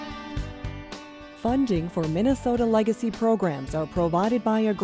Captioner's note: voiceover